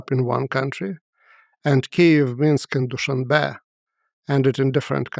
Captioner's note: speaks foreign language